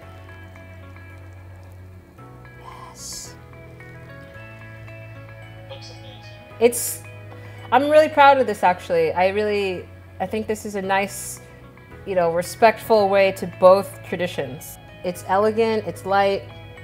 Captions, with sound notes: (whispers) Yes. I'm really proud of this actually. I think this is a nice, respectful way to both traditions. It's elegant, it's light,